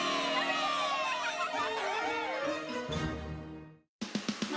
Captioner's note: all l cheering